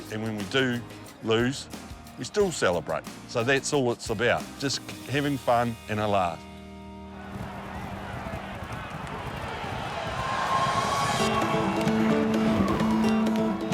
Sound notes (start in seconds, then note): 7.0 spectators cheer; 11.2 upbeat music